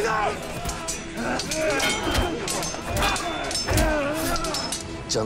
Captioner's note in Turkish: Çarpışma sesleri